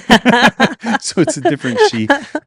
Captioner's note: both laughing